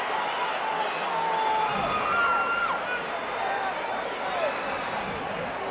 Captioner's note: audience chattering continues